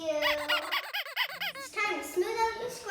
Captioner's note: rubber toy squeaking